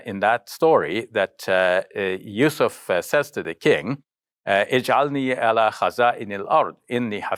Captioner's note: speaking Arabic